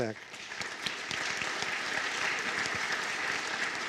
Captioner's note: applause